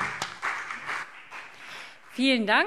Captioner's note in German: Beifall CDU und BÜNDNIS 90/DIE GRÜNEN